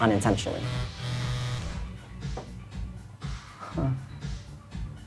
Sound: buzzing

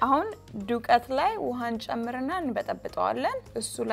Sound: speaking Amharic

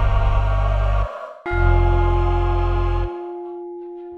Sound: church bell rings

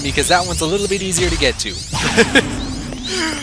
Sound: laughs

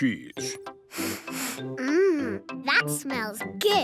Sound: sniffs

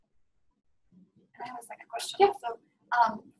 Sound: voiceover

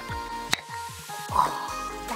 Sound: jar lid clicks

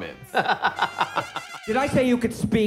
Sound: laughing

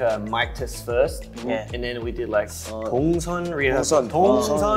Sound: speaking Korean

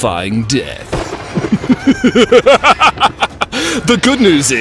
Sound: evil laughter

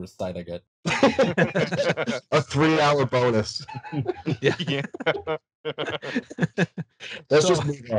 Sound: laughter

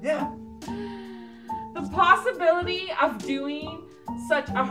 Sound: sigh

